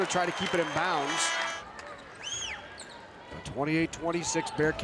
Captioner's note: buzzer rings